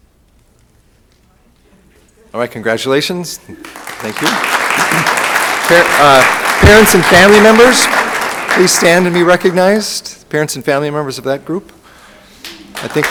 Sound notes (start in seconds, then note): 3.5 room applauds